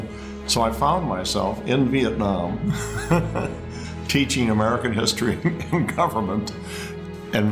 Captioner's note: laughing